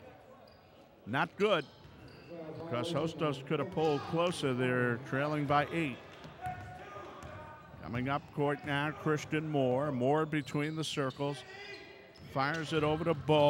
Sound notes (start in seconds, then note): 6.5 ball pounding; 6.5 yelling